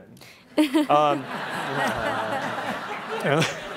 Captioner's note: laughing